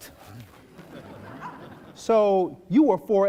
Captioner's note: laughing